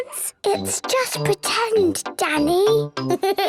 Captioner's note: whispers; giggles